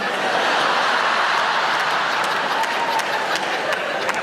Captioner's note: audience laughing